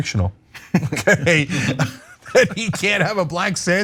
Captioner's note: laugh